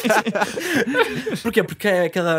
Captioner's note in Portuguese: risos